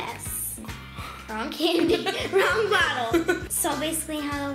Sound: giggles

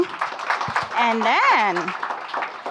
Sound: audience applauding

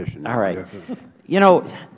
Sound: laughter

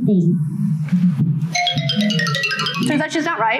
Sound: bells chiming

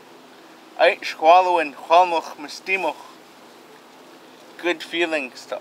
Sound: speaking Hul'qumi'num

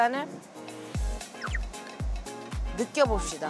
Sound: buzzing

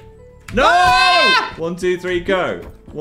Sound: screams

